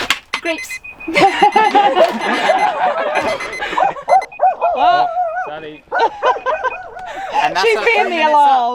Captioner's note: laughing, alarm and then dog barking